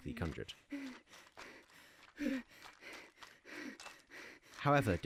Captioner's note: craftswoman breathes heavily